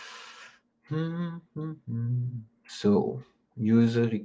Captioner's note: hums